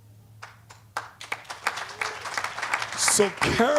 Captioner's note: applause